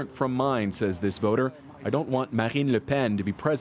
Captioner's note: speaking French